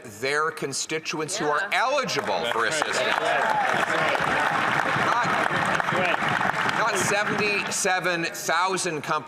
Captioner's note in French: voix de l'interprète